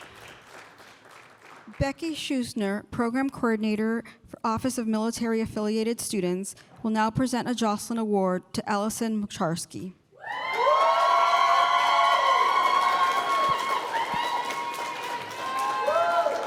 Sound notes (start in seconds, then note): 10.4 applause